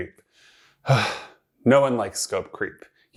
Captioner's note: sighs